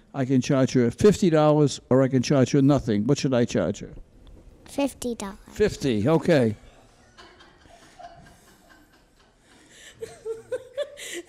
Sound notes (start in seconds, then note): 6.2 courtroom laughs